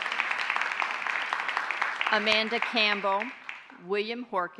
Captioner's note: applause